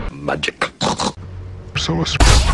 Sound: snort snort

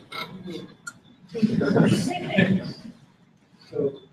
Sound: laughter

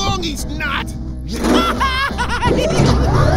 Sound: laughing

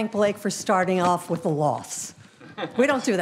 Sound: audience laughing

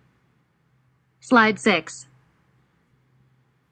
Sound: voiceover

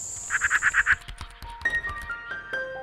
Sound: keyboard typing; bird quaking; gentle music

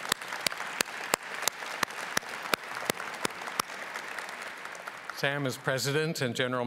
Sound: applause

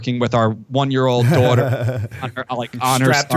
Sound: laughter

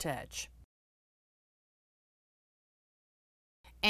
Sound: no Sound Present

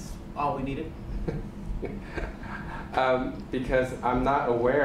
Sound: laughs

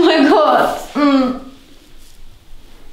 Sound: the girl screams after massage

